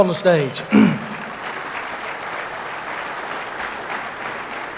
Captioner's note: audience applauding